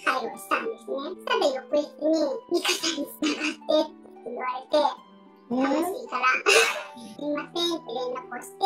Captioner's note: laugh